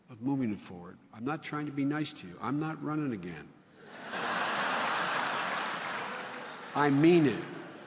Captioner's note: laughter